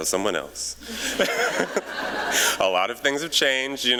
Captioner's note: laughter